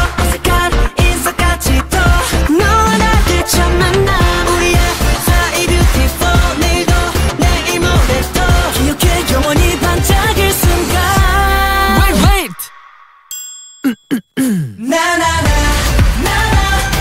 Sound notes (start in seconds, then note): 13.8 a-hem-hem